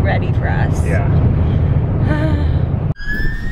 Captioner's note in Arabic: بلورات تتأوه; صفارات الإنذار لسيارة الإسعاف تطن